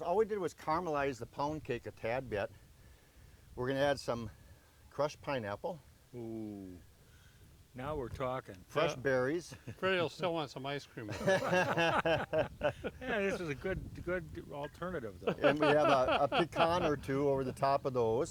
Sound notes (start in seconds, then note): 11.0 they laugh